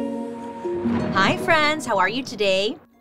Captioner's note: thunder crashes